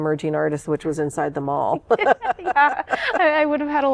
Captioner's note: laughter